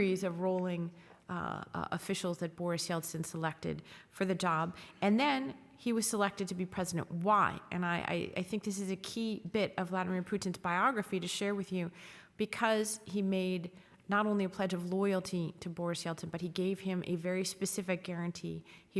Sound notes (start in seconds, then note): none